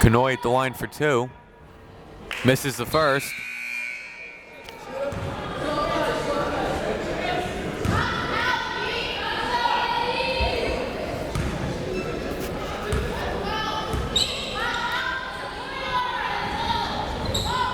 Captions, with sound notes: Kanhoye going for two. Misses the first. (buzzer ringing) (crowd members shouting)